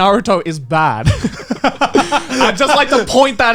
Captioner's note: laughs